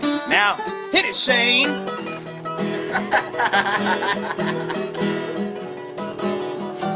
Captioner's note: laughs